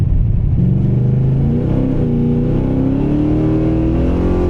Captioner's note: engine revving